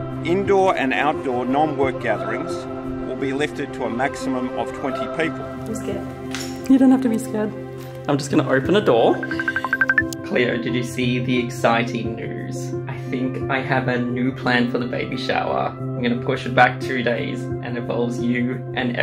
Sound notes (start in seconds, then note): 9.2 phone ringing